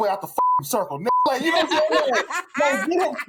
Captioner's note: laughter